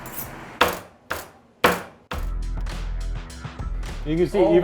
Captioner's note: sharpening knife; knife chopping